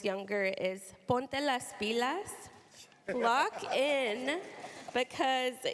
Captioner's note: speaking spanish